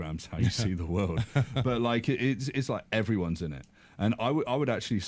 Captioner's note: chuckles